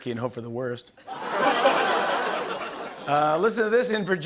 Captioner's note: laughter